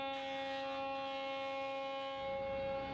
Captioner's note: machinery sounds